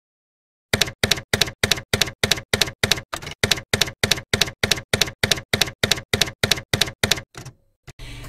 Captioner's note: typewriter keys clacking